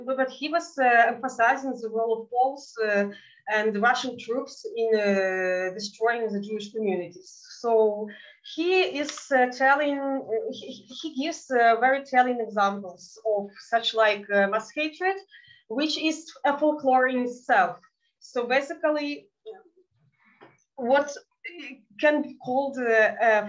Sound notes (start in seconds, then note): 14.3 speaking in Yiddish